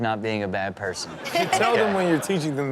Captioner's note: audience laughs